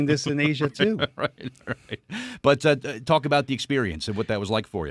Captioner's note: chuckling